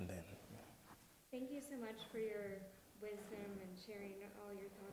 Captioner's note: voiceover